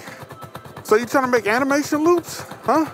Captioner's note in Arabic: صراخ القطار